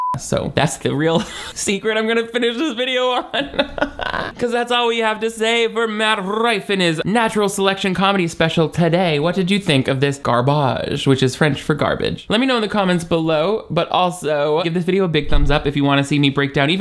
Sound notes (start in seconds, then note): 0.0 beep; 2.4 laughs